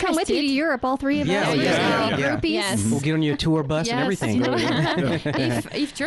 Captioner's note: laughing